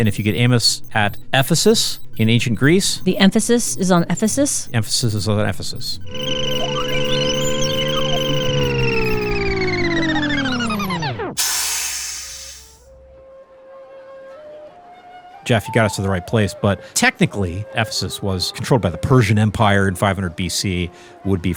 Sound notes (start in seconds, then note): 6.4 time machine whirring; 11.4 steam hissing